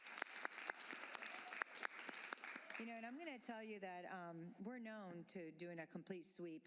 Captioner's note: applause